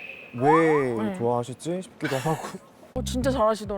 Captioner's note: sound of utter confusion